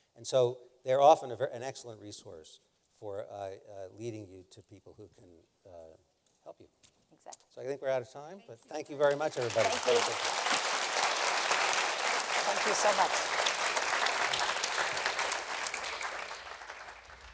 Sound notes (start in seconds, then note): 10.1 applause